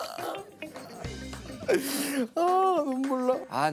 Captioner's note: choking with laughter